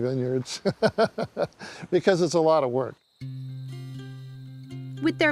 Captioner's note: chuckles